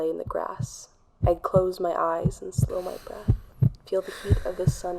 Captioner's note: heartbeat/breathing sfx